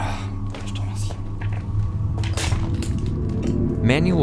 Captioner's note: speaks French